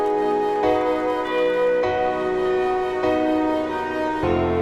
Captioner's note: bells tolling